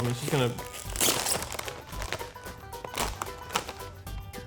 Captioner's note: packet crinkling